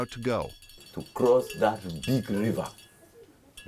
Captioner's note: through translator